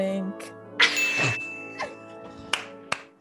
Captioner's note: ding